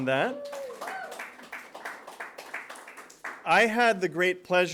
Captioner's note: applause